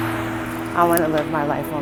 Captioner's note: car engine revving